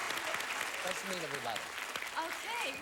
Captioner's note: audience applauding